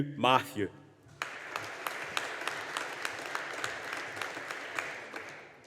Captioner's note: audience applauding